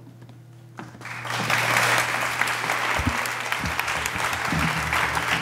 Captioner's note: audience applauding